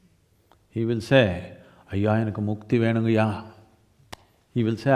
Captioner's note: speaks in Tamil - not transcribed